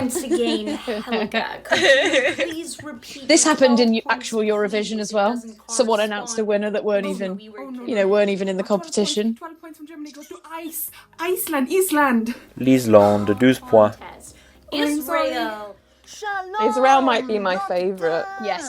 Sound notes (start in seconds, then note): 0.0 Sketch audio plays; 9.7 Sketch audio plays